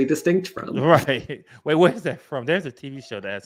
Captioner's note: chuckles